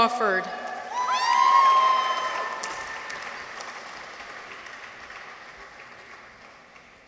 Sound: people cheer; audience applauds

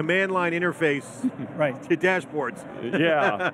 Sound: laughs

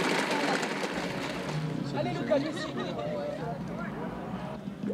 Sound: crowd talking

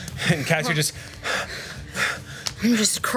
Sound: gasping for air

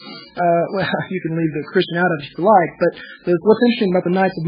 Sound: laughs

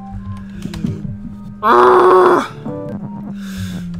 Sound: deep breath

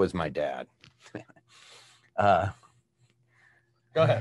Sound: chuckles

